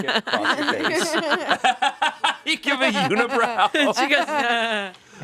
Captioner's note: laughing